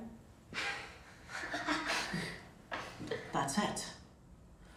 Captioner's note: boys laughing